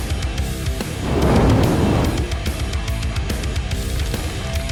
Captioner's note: torch blazing